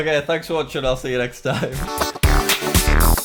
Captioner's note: laughs